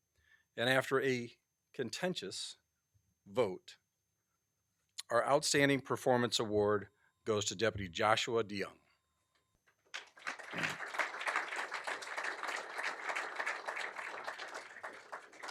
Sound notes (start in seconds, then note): 9.9 applause